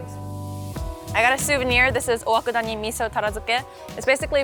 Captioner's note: speaking in Japanese